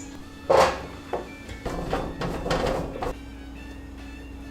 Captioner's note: thudding sound; classical music